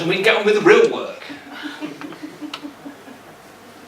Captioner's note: laughter